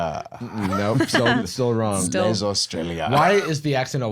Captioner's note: French accent; French accent